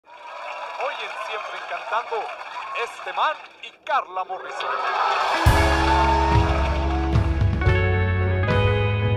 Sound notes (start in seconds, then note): 4.4 aplausos